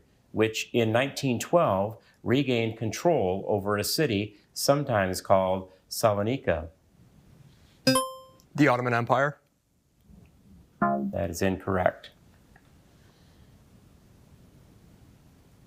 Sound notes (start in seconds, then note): 8.0 buzzer ringing; 11.0 buzzer beeping